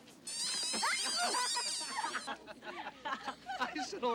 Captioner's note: toys squeaking; all laughing